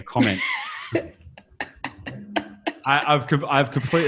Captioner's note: laughs